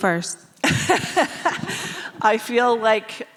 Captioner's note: laughing